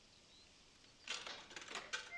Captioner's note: coin drops in jukebox